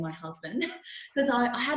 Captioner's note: laughs